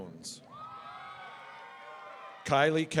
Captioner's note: audience cheering